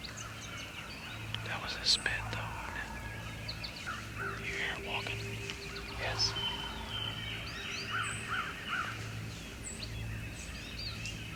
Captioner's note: whispering